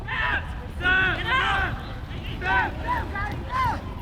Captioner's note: players shouting